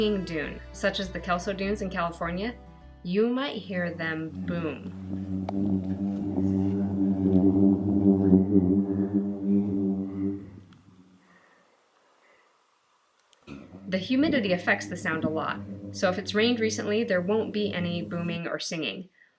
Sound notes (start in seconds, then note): 7.3 low humming sound